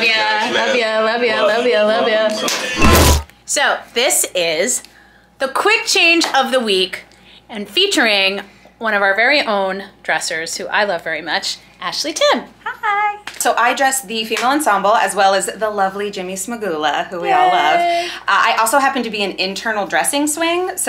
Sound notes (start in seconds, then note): 1.5 people high fiving; 3.0 exciting instrumental music